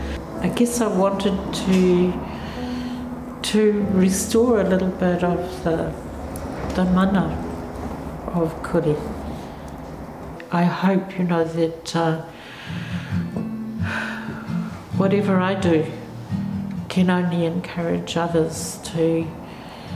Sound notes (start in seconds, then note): 12.3 breathes deeply